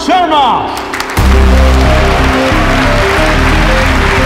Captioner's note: All clapping